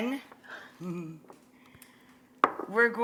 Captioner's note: Rachael giggles